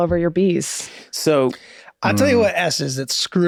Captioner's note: Glenn groans